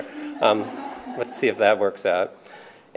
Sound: laughter

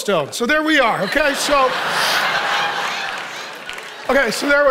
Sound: congregation laughing

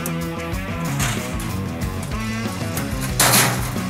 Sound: metal sheets clang

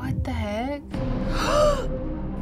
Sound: gasps

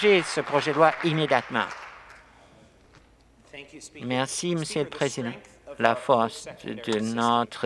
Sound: some Applause

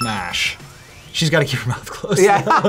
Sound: laughs

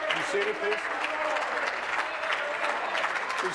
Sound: applause

